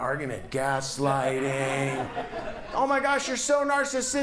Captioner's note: audience laughs